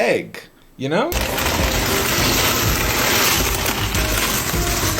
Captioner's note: bag rattling